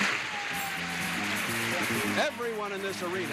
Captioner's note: audience applauds